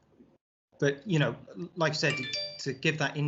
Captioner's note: Isaac's phone beeps